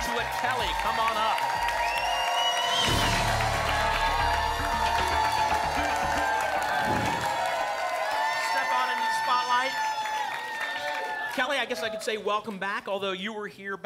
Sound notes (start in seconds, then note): 6.7 whoosh